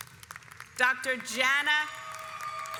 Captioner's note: audience applauds